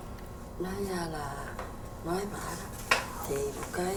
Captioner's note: speaking vietnamese